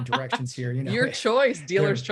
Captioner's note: laughs